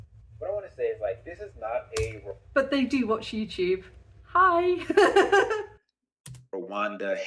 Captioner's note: laughing